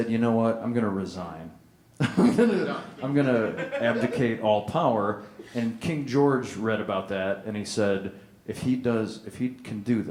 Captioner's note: laughter